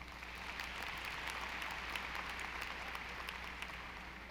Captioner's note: audience applauding